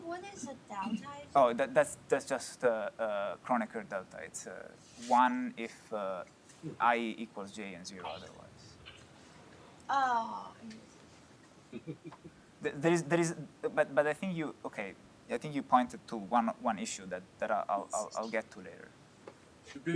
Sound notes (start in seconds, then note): 11.7 laughter